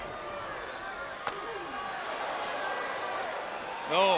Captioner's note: slap smacks